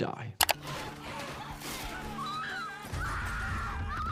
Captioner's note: people screaming